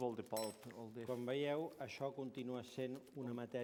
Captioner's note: non-english speech